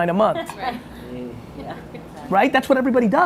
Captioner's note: chuckling